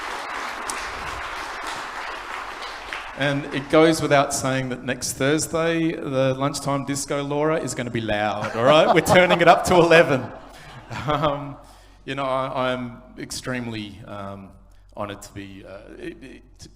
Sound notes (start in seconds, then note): 4.1 applause